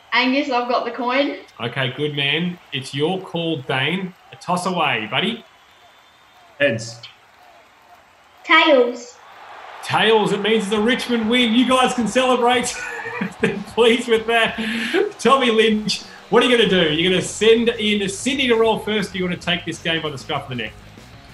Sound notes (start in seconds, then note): 9.2 crowd roars; 13.0 laughs